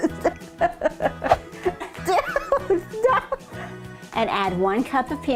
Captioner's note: laughing